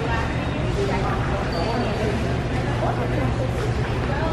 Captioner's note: shoppers talking